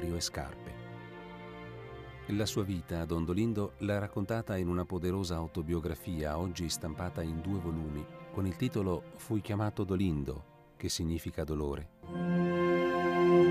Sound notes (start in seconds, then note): 6.6 in Italian